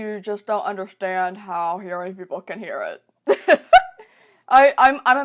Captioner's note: laughs